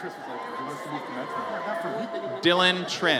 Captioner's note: audience cheers